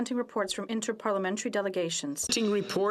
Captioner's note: speaking French